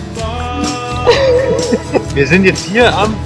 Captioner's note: laughing